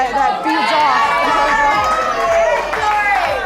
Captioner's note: applause